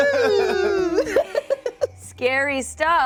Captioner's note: laughs